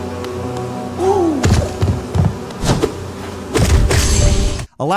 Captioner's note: loud thumping